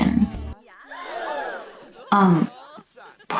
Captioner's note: crowd gasp sfx paired with judgemental glare